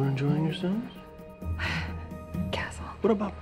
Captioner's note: sigh